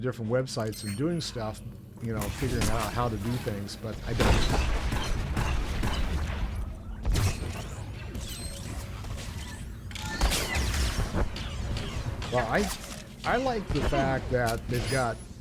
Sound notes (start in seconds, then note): 7.4 gunshots